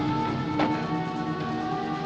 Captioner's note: door closes